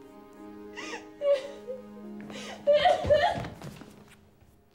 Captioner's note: Eliza crying